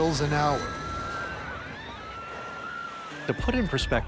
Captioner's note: passengers screaming